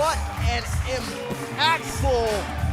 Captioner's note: crowd cheering